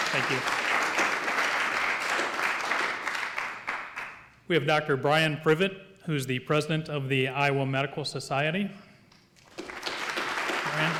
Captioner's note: applause